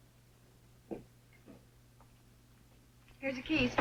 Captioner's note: footsteps thudding